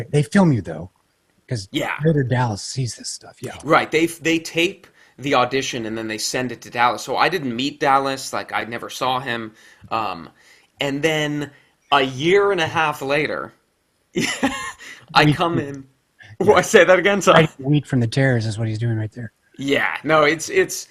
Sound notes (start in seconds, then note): 14.1 laughs